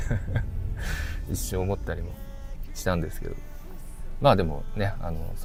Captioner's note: laughs